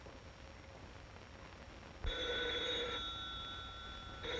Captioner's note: phone ringing